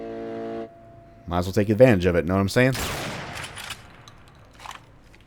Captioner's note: bam